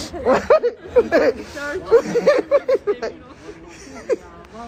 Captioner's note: Tiffany laughing